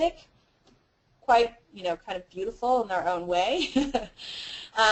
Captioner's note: laugh